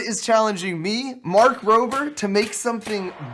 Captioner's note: sound of toy firing; excited crowd shouting